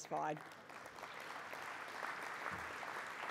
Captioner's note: applause